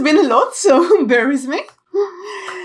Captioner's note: laughs